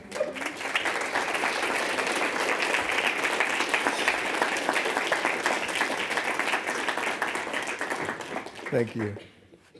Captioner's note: clapping